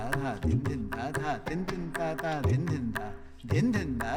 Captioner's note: vocalizing beats